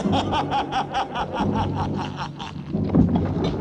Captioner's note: laughing